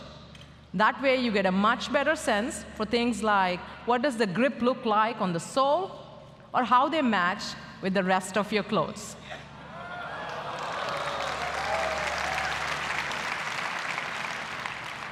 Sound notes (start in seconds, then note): 10.1 applause